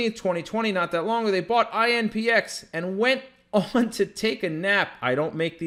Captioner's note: chuckles